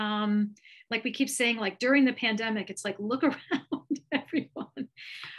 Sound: chuckles

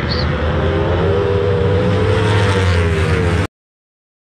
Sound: motorcycle sound

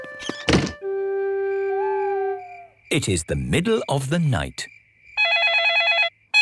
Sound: owl hooting; phone ringing

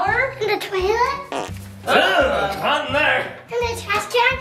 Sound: fart noises

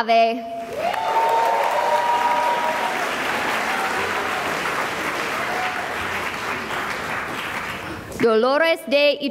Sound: cheering and applause

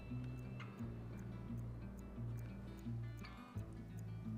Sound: clock ticking

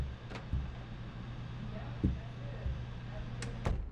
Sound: door clicks

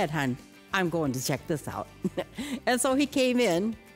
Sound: laughs

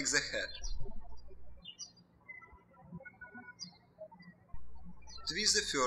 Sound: birds chirping

